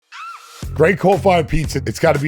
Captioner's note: person squeals